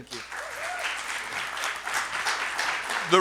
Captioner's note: applause and Cheering